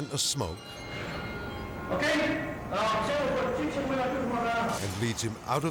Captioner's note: gunman speaking French